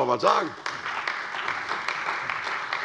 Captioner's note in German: Beifall bei der CDU und dem BÜNDNIS 90/DIE GRÜNEN